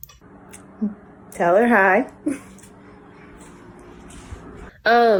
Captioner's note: giggles